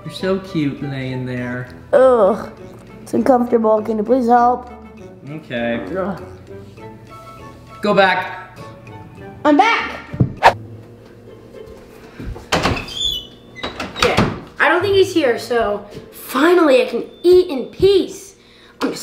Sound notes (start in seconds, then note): 10.3 air whistling; 13.6 latch turning; 13.6 door slamming